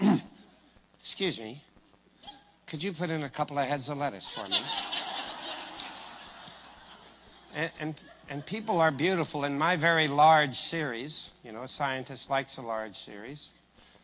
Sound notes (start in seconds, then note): 4.3 risate